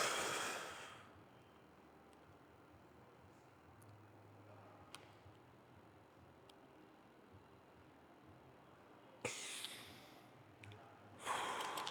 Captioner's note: exhaling